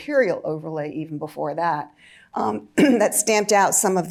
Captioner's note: clears throat